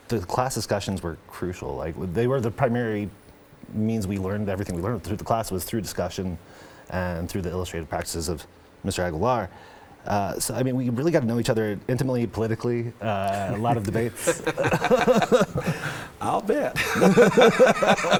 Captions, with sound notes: The class discussions were crucial. Like, they were the primary means we learned. Everything we learned through the class was through discussion and through the illustrated practices of Mr. Aguilar. So, I mean, we really gotta know each other intimately, politically. A lot of debates. (all laughing) - I'll bet.